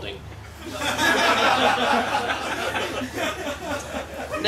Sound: laughter

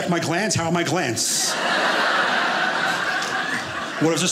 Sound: audience laughing

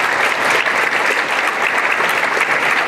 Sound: applause

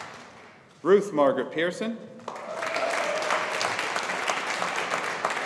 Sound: audience applauding

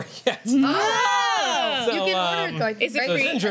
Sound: exclamations; laughs

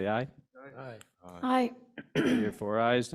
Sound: board members call aye

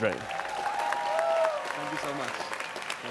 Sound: students cheering

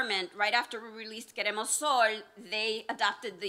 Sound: non-enlish speech

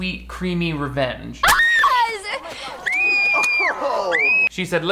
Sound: girl screams

